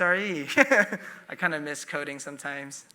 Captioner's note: chuckling